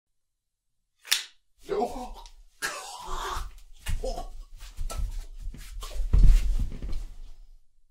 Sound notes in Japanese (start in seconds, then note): 1.0 刀が収まる音; 2.6 喘ぐ音